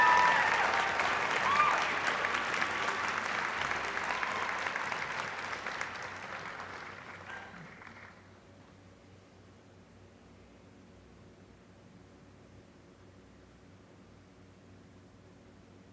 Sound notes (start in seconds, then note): 1.7 applause